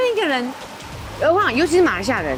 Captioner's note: Jani language